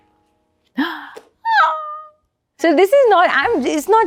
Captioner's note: gasps; upbeat jazz music